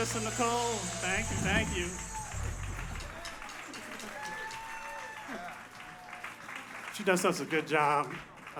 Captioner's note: applause